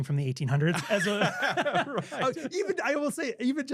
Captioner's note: laughing